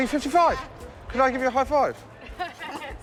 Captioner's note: laughter